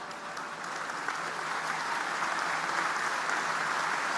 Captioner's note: audience applauding